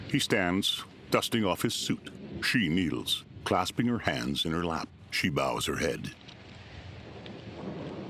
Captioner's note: thunder rumbling